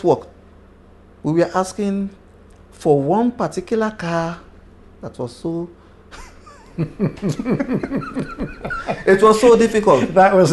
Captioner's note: laughter